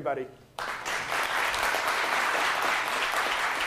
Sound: audience clapping

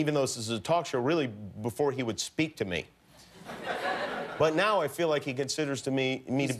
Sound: laughter

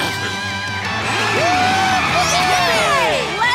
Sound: cheering

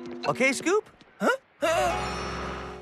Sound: gasp!

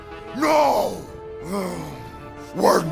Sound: growls

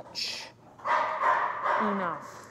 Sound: dog barking

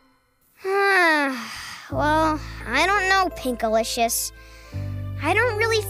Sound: sighs

